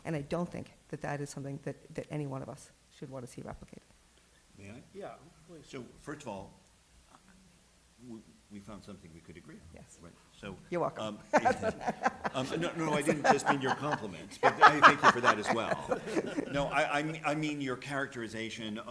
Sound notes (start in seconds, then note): 11.2 laughter